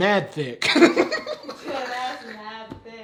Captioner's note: laughing